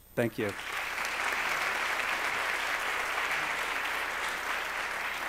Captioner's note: applause